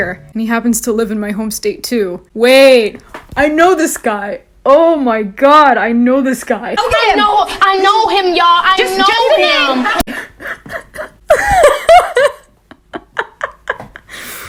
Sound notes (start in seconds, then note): 10.0 coughing laugh; 11.2 laughs